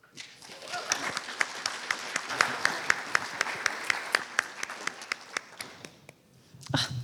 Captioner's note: applause